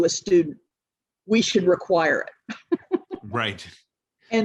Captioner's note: laughs